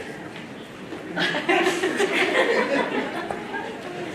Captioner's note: laughter